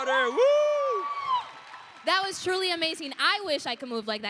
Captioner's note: applause, cheering